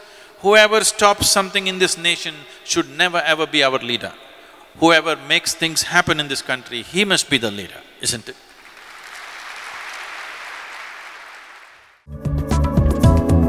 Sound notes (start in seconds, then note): 8.5 applause